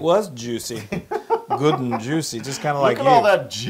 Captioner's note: laugh